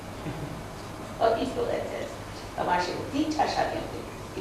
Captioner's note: hindi